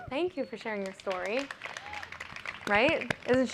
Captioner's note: applause